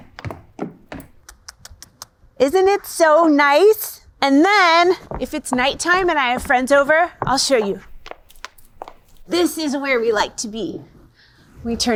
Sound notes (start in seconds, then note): 0.0 footsteps; 8.3 footsteps